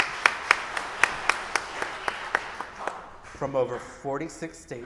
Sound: audience applauding

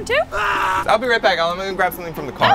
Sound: screaming

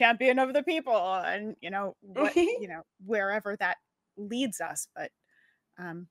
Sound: giggles

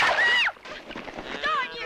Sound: screams

